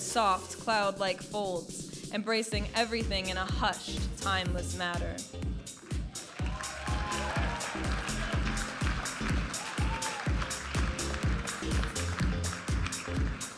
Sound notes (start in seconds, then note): 5.9 audience applauding and cheering; 10.6 vibrant music